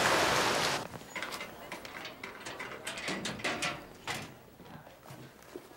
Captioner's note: locker clicking